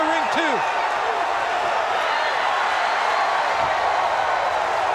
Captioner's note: crowd cheering